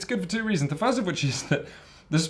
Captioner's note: chuckles